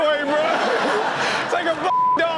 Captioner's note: audience laughs